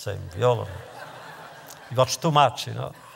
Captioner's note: laughter